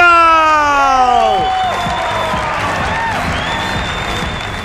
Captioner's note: cheers and applause